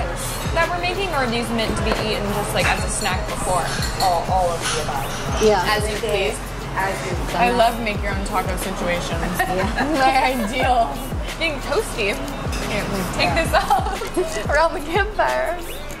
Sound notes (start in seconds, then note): 9.2 laughing